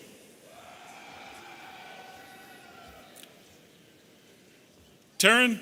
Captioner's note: audience cheering